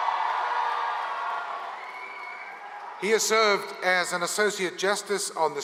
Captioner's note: applause